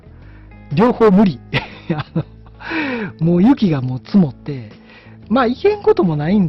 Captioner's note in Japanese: 笑い